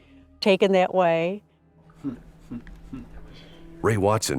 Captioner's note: laughing